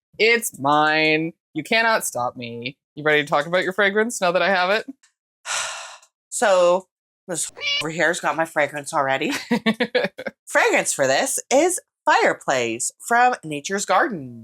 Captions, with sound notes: It's mine. You cannot stop me. You ready to talk about your fragrance? Now that I have it? So this [MEOW] over here has got my fragrance already. Fragrance for this is Fireplace from Nature's Garden.